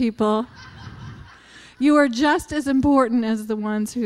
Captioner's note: laughter